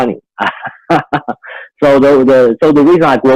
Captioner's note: laughs